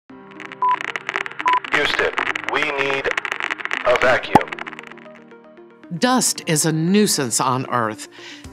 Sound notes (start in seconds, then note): 0.1 static crackling; 0.4 machine beeping